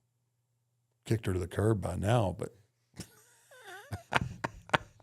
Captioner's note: laughs